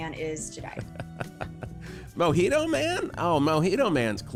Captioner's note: laughs